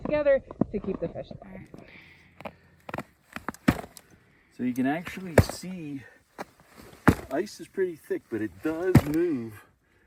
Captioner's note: snow crunching underfoot